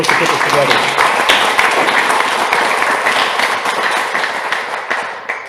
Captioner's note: audience applauds